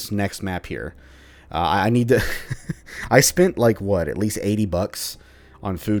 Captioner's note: chuckles